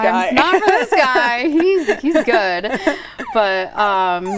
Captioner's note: laughing